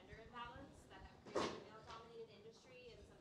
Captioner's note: door closing drowned out words